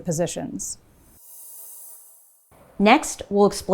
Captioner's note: logo whooshing